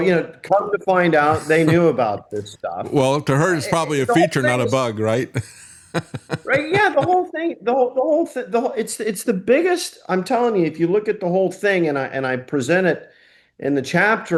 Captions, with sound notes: So come to find out they knew about this stuff. Well, to her it's probably a feature, not a bug, right? (Laughing) Right, yeah, the whole thing. The whole thing. It's the biggest, I'm telling you, if you look at the whole thing and I present it